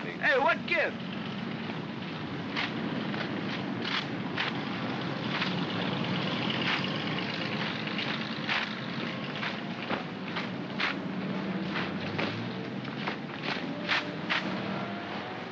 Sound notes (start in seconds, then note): 2.0 feet marching; 2.5 vehicles rumbling